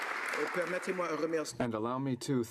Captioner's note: applause